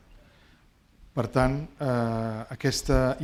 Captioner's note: speaking spanish